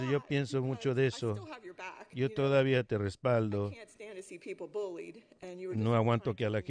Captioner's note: laughter